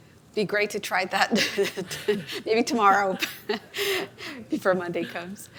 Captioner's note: laughs